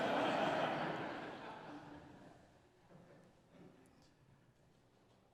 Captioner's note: audience laughs